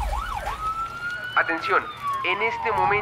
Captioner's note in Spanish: Sirenas